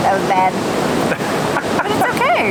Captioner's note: laughs